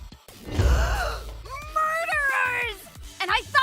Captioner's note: gasp